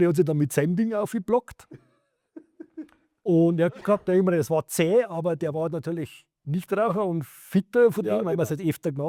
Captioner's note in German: gelächter